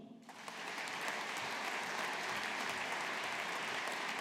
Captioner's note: audience applauding